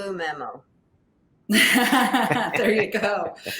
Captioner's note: laughs